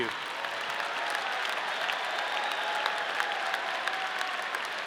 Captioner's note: audience cheering